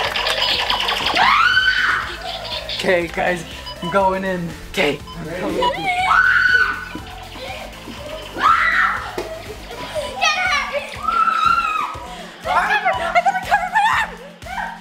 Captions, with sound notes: - Okay guys, I'm going in. - Okay. (screaming) - Get her.